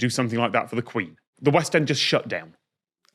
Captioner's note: none